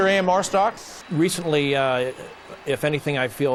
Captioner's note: airplane whirring